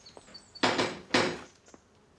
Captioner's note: knocks at door